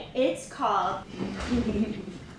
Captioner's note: giggling and whispering